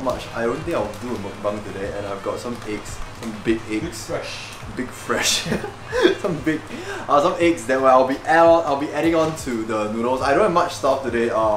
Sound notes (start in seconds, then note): 5.3 giggle